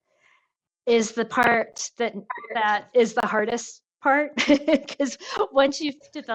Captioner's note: laughs